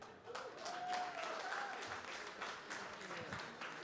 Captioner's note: cheering, applause